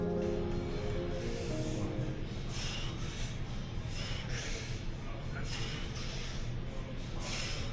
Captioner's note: breathing